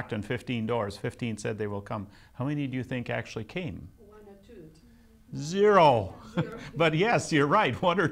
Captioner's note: laughs